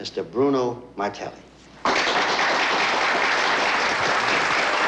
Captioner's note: applause